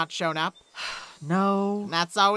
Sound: pinkie sighs

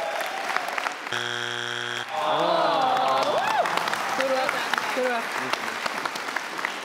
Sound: buzzer buzzing; audience cheers; audience groans

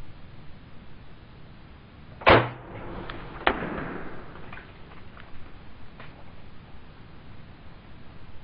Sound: arrow launch

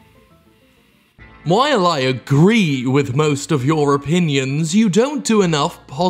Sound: reading voice

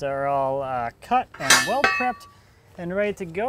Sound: metal clasing

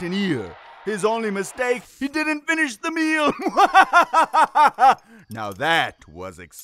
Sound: laughing

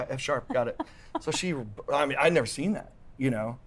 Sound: laughs

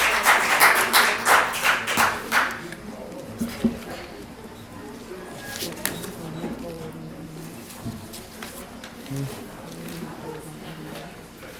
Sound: applause

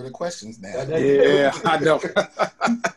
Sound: all laugh

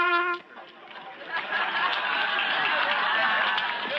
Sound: people laughing

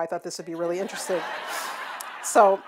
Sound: audience laughing

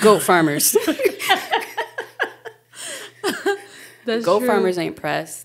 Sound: speakers laughing

